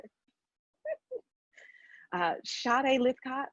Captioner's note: laughing